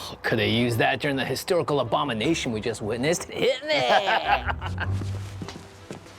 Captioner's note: Brom laughs